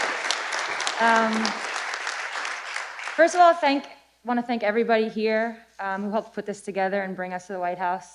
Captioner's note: applause